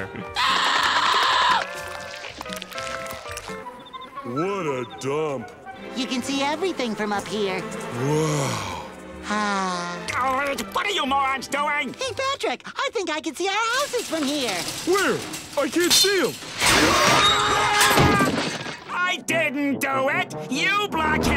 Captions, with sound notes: [screaming] What a dump. You can see everything from up here. Wow. [sighing] What are you morons doing? Hey, Patrick. I think I can see our houses from here. Where? I can't see 'em. [screaming] I didn't do it. You blackheads--